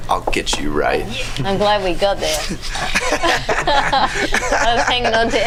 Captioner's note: all laugh